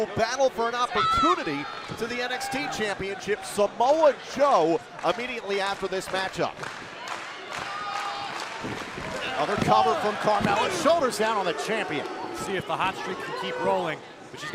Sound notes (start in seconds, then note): 6.7 crowd cheering